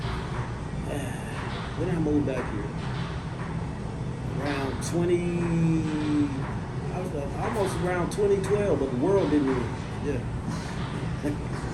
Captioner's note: sighs